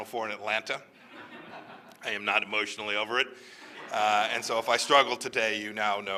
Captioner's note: laughter